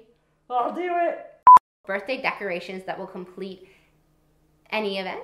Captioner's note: beep